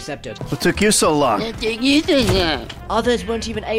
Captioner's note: mockingly